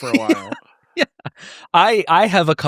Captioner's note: laughing